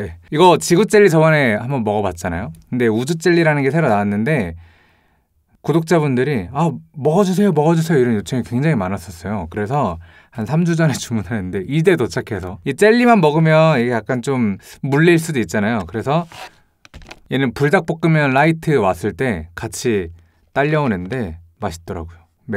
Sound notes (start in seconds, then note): 4.6 A deep breath